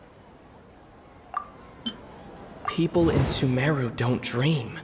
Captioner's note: none